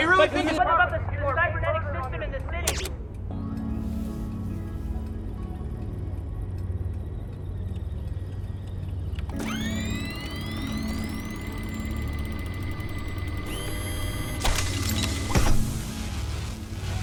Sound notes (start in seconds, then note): 13.2 armored gauntlet snaps to flesh